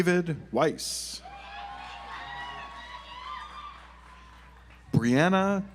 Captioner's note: audience applauds